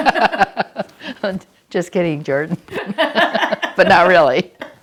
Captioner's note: laughter